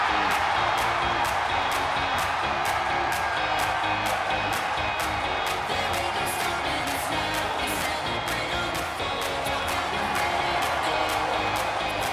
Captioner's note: cheers and applause